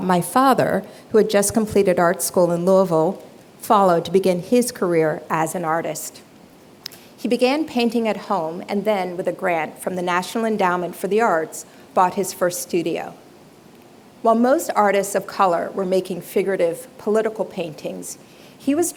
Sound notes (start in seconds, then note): none